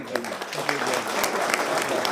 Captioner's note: laughter